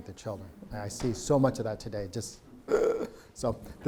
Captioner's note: grunts